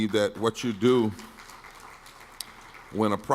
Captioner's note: audience clapping quietly